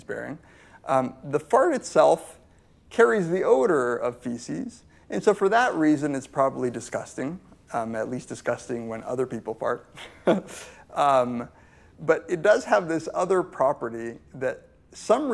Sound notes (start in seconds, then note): 10.3 laughs